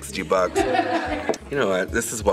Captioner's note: all laughing